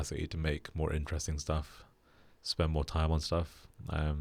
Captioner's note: none